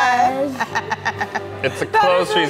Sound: laughter

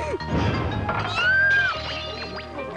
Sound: scream

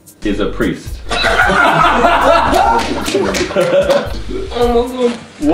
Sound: laughing

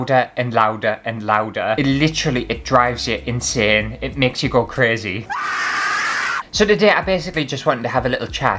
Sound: scream

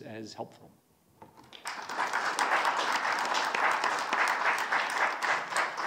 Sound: congregation applauds

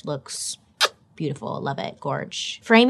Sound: smacks lips

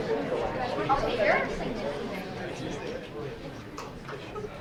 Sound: group chattering

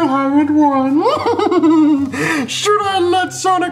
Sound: laughs

